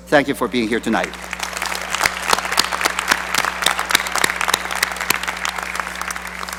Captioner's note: applause